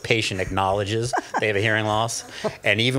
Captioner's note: laughs